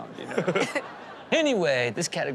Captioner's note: audience laughs